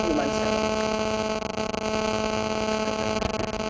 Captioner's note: microphone buzzing